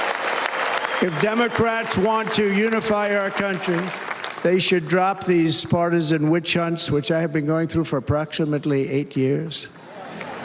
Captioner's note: cheers and applause